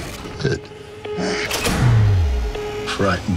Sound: deep breath; door shut

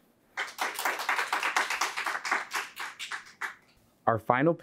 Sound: audience clapping

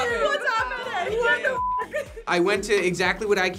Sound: group laughs

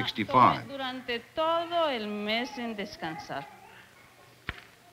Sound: speaking Spanish

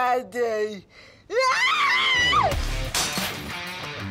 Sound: screaming

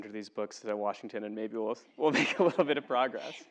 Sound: laugh

